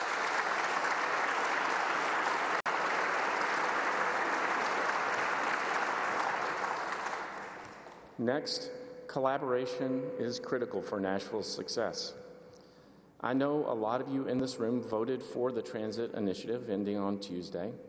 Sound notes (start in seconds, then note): 5.4 applause